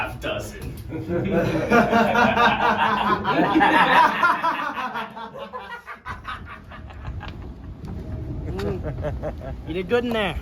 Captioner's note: they laugh maniacally